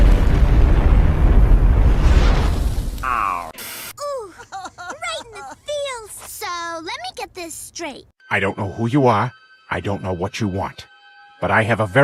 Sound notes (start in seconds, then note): 4.0 both crying